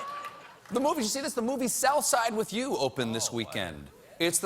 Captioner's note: laughter